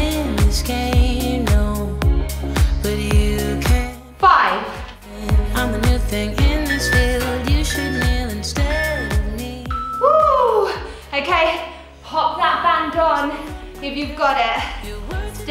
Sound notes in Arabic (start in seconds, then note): 6.7 صوت المؤقت